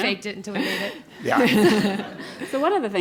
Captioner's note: laugh